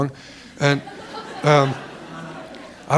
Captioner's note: laughter